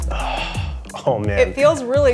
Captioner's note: sighing